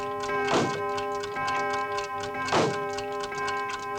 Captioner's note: clock tolling; door closes